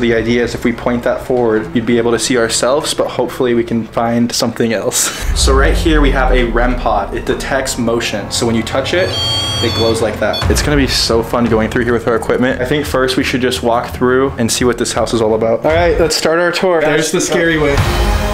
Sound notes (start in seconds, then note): 9.0 beeps; 18.1 dramatic music